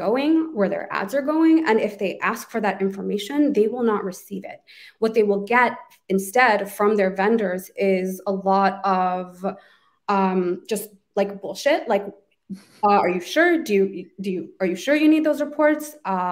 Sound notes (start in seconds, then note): 12.9 beep